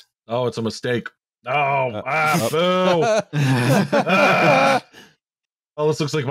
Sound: laughter

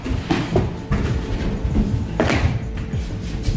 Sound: feet thudding

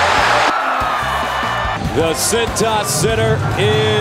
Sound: crowd cheers

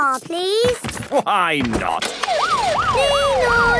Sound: siren sounding

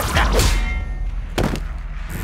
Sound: whizzing; thud; abrupt bang against glass

